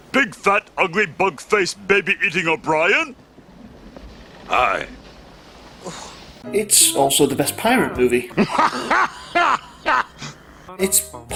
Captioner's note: Vaguely Tim Curry noises